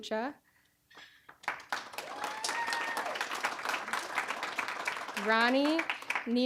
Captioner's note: applause